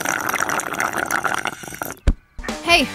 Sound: slurping; body thuds

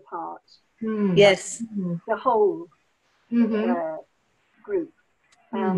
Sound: sounds of agreement

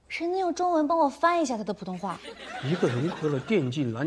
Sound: Mandarin

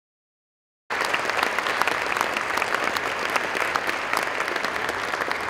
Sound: applause

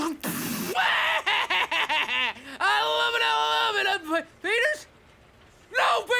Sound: bombing sound; victorious laugh

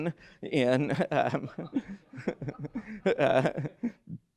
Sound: laughter

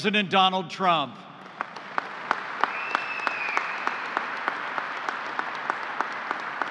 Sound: applause

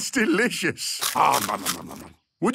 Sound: crunching

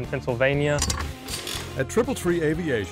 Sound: clanking tool sounds

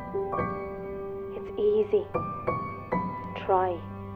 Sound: from tv

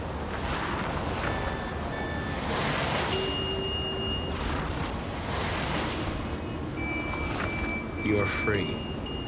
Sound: cars honking

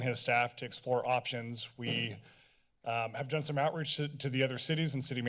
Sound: thuds

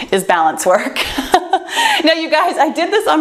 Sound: laughs

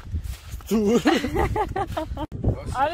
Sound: laughter

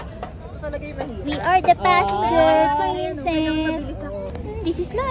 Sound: sing-song

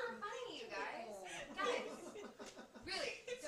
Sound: laughter

